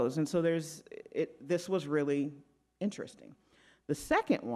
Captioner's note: none